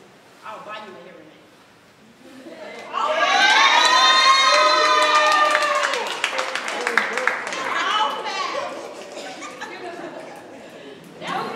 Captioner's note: audience applauds